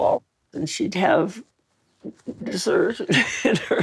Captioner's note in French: rire